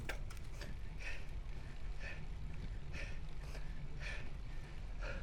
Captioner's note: breathing